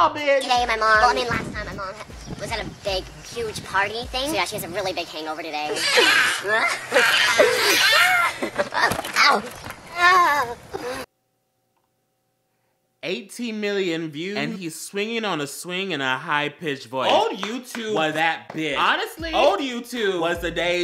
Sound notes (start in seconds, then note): 7.6 more laughing; 9.8 Fred falls and... aHEM... mOaNs